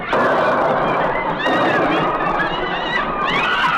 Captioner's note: thunder crashing